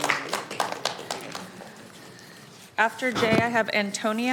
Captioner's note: applauding